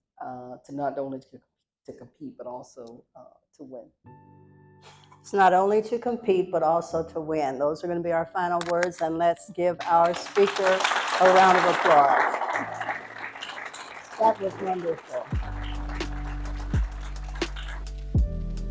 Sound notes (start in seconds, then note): 9.8 applause